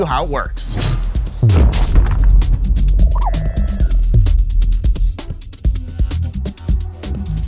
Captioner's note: transition whooshing; upbeat electronic music